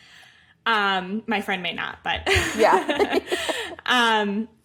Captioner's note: laughs